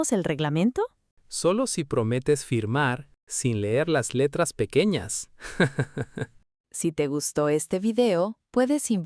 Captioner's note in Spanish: risas